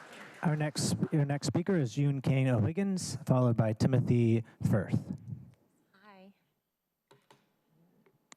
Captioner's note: applause